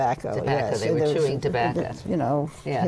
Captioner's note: laughs